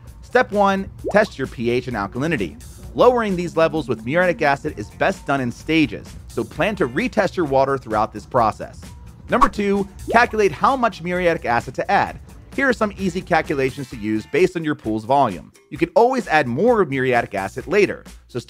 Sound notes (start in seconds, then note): 1.0 graphics popping; 9.4 graphics swishing